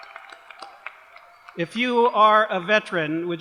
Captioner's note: applause